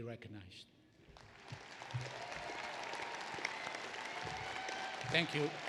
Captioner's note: applause